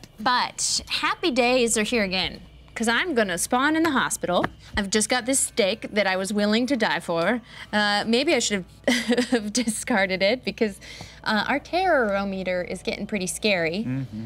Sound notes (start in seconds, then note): 9.1 laughing